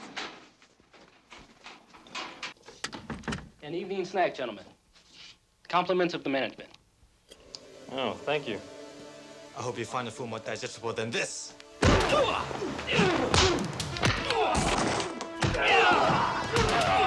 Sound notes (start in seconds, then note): 11.8 body thudding; 11.8 men groaning; 14.2 dramatic music